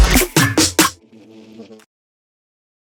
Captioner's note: insect buzzes